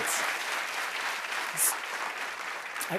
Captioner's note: applause